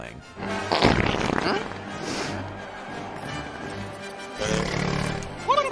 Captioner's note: comical fart noise